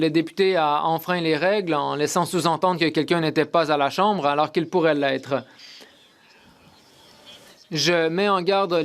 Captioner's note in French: voix de l'interprète